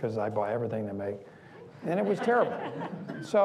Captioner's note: laughing